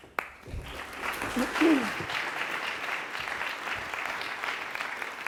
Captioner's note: applause